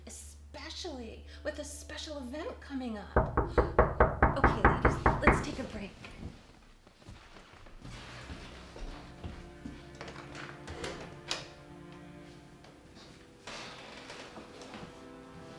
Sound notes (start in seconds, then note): 3.2 door knocks; 7.9 somber music